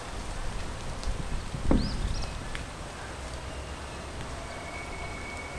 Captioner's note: wind blowing